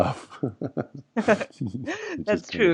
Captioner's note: both laugh